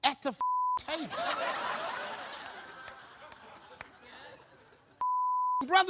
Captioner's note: beep; audience laughs; beep